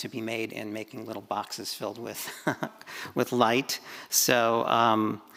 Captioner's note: chuckles